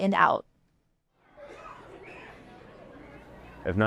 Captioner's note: children playing